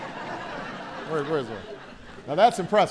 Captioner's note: laughter